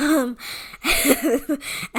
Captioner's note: laugh